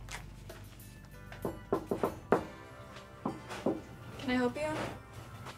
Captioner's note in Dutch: iemand klopt op de deur